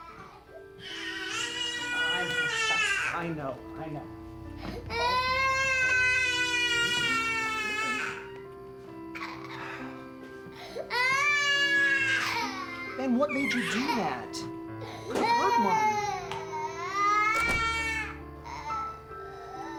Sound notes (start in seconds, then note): 9.2 sighs; 17.3 door locks